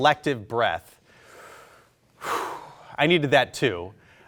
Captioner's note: heavily breathes